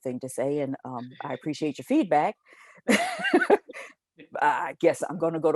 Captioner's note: chuckles